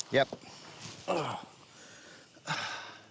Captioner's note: exhales